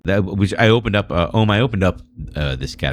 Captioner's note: uh